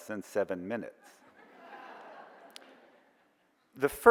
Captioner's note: audience chuckles